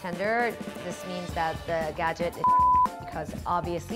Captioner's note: beep